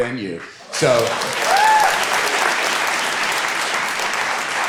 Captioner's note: audience applauding